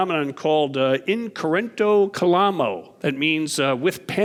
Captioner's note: speaking in foreign language